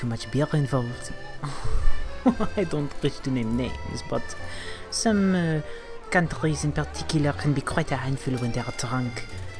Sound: laughs

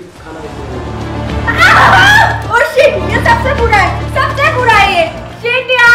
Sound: screams loudly

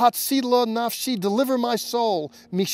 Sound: speaking Hebrew

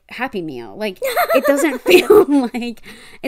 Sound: laughs

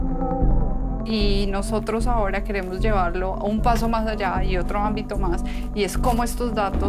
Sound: unsettling music; continues speaking in foreign language

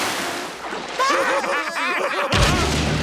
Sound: laughing

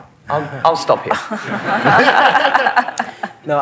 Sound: laughter

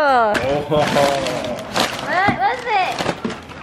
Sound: paper crinkling

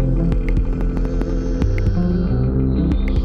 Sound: none

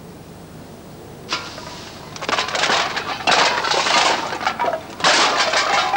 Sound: metal cans clattering

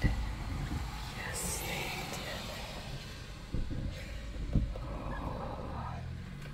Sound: whispers ominously

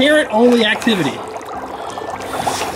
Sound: bubbling; blowing

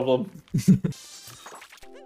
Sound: softGiggle

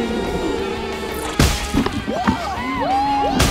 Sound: pumpkin exploding; screaming

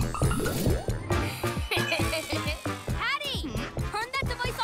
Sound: evil chuckle

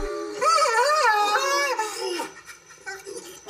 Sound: nanny cries

